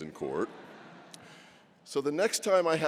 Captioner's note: laughter